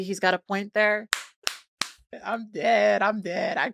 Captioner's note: presenter clapping